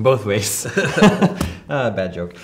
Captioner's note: laughing